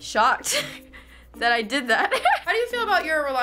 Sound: laughs

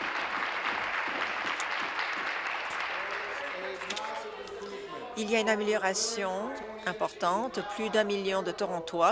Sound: applause

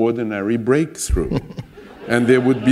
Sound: laughter

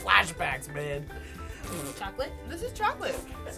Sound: sputters

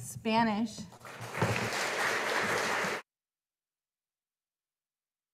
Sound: audience applauding

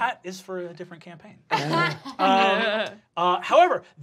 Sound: laughing

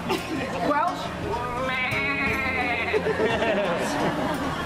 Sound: sheep noises

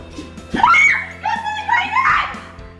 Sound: screams

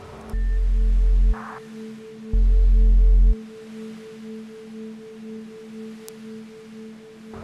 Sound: tones and static

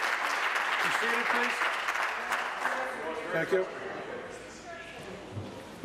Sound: applause

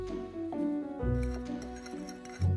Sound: fork whisking

